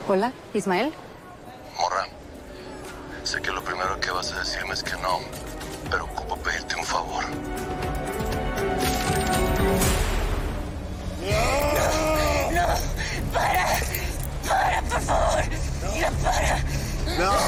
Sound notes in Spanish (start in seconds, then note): 11.2 Exclamación